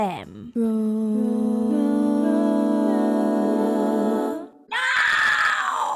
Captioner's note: roar, roar, roar, roar, roar, roar